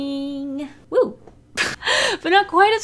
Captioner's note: laughs